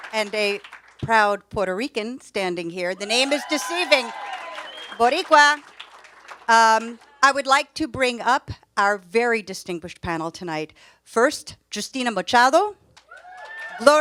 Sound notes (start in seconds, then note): 3.0 audience cheers; 4.0 speaks foreign language; 13.0 audience cheers